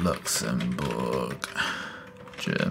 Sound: sighs

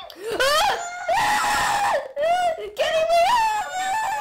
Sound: screams

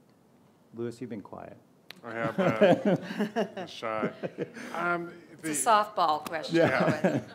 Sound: laughs

